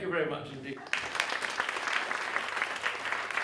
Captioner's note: applause